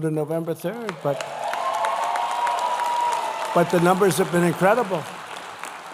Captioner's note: applause